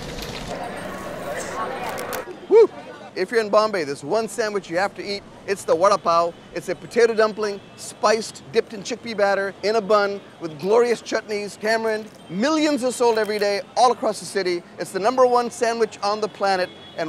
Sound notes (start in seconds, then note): 1.1 crowd chattering